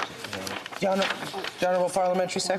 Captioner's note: speaking French